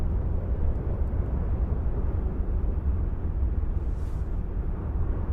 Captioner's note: wind whistling continues